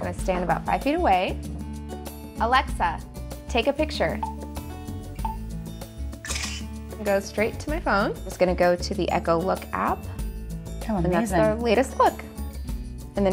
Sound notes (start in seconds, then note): 4.2 camera flashes; 5.2 beeping